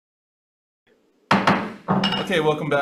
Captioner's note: gavel bangs